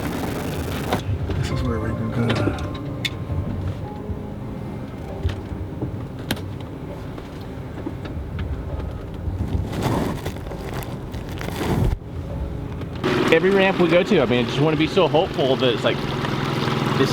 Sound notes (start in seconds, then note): 4.6 melancholy piano music; 9.8 loud wind